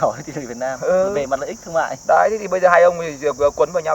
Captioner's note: chuckles